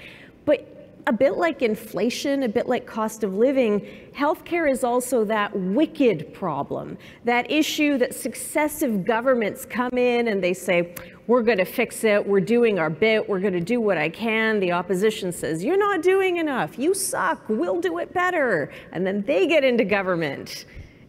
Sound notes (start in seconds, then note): none